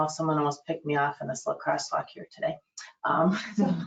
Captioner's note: laughs